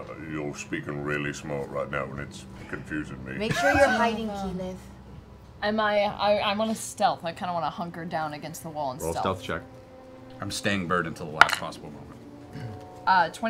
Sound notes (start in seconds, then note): 3.4 laughing